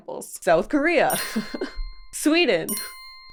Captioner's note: bell chimes